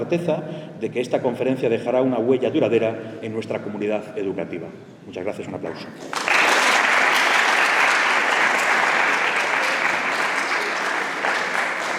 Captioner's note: applause